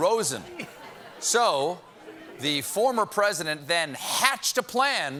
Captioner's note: laughter